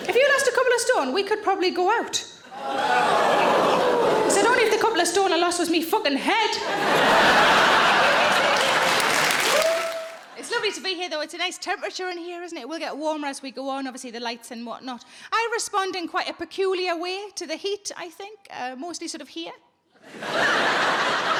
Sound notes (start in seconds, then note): 2.6 audience groans; 6.6 audience laughs; 20.0 audience laughs